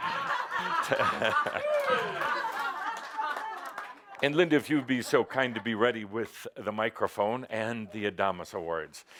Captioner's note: laughter